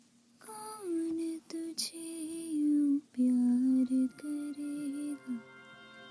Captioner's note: vanessa humming a song